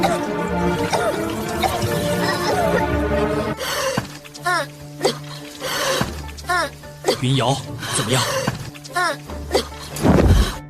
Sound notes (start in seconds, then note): 0.8 cough, cough, cough; 4.9 cough; 9.4 cough